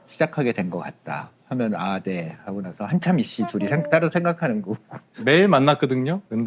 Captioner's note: silence Ping 1, 2